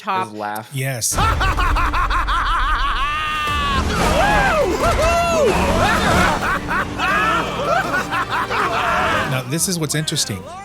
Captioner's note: laughs